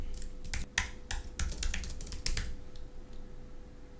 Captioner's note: typing